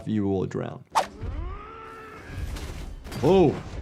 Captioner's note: Maximus groans